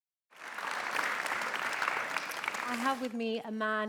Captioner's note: applause